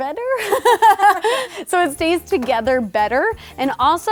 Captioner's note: laughing